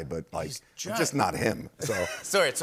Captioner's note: laughter